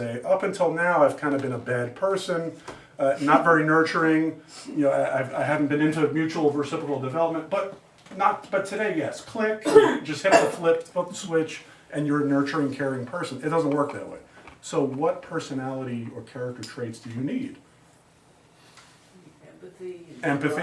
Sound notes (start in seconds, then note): 4.0 student laughs; 10.2 student coughs